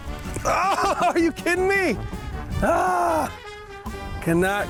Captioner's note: grunts